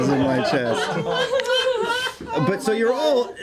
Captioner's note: laughing